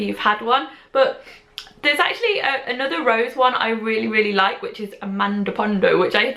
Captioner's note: sniff